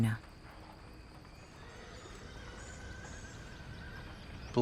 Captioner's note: horse whinnying